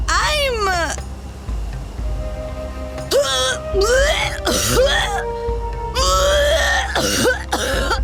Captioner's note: coughs and almost vomits